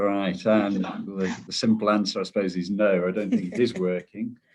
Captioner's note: chuckles